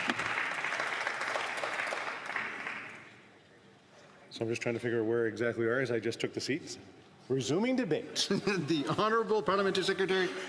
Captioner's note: applause